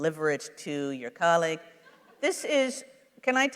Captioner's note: laughter